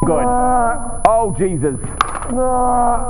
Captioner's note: high pitched ringing